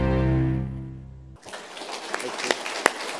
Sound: applause

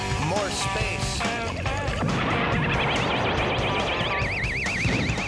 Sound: explosion

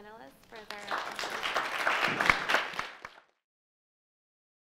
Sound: applauding

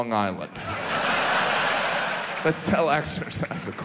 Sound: audience laughs

